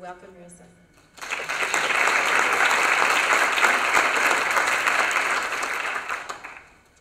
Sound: applause

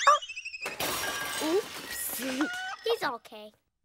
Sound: dog crashes

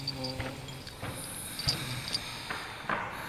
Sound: thudding

